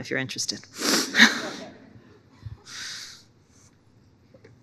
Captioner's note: audience laughing